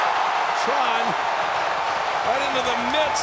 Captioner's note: audience cheers